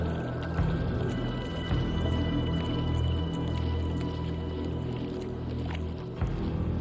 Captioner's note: suspenseful music continues; water sploshing